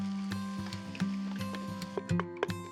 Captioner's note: vegetables sizzling